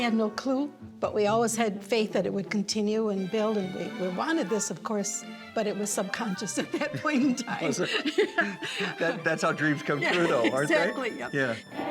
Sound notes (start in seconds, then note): 6.6 laughing